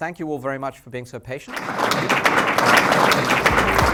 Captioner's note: applause